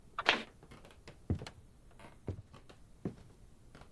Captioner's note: wooden floor creaks with footsteps